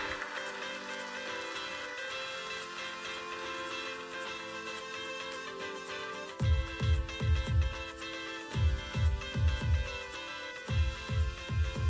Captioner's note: applause